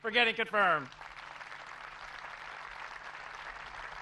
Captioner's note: applause